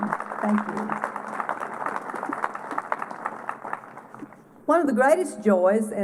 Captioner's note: applause